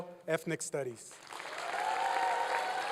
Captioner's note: applause